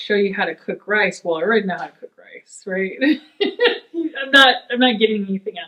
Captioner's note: laughs